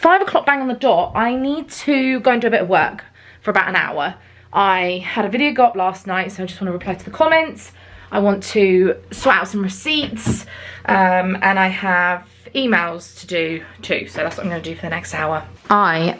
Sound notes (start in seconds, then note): none